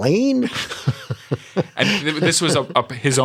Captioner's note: laughter